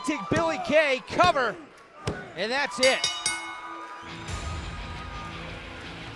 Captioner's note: bell ringing